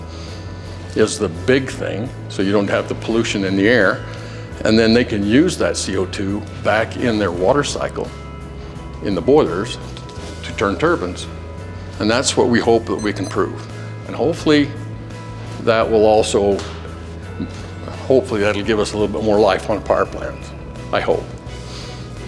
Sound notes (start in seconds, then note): 12.8 watch beeps